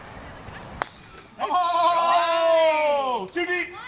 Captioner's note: cheering